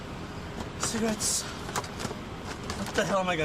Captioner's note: rifling